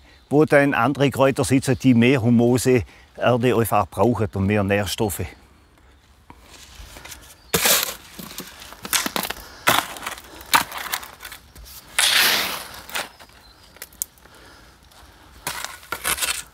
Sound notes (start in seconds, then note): 12.8 birdsong